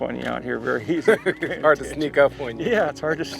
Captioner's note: laughs